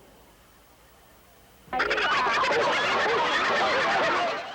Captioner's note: laughter